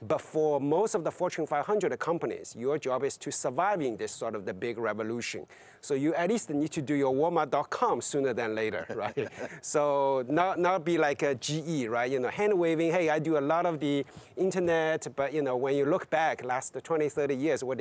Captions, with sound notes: But for most of the Fortune 500 companies, your job is to surviving sort of the big revolution. So you at least need to do your walmart.com sooner than later, right? (laughs) So not be like GE, right? You know, hand waving, hey, I do a lot of the internet, but you know, when you look back last 20, 30 years,